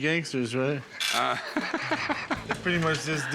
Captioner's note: laughter